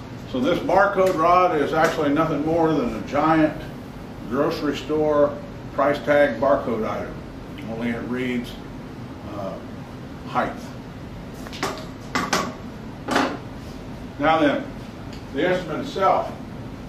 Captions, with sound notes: So this barcode rod is actually nothing more than a giant grocery store price tag, barcode item. Only it reads height. (metal clanging) Now, then, the instrument itself.